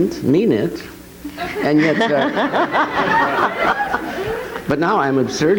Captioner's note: audience and interviewer laughs